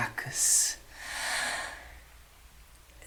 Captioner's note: sigh